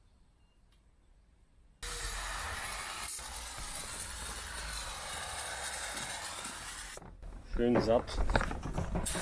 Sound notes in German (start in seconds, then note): 1.8 rauschen; 8.5 rauschen